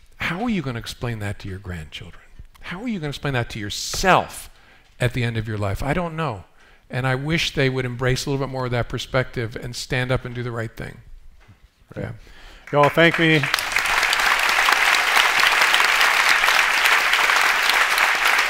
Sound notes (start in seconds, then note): 12.5 applause